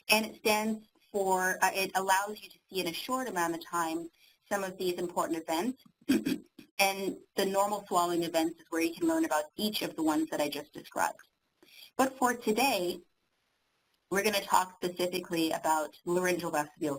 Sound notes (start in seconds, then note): 6.1 clearing throat